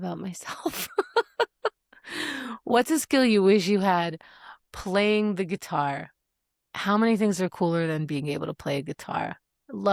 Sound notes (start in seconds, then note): 0.7 laugh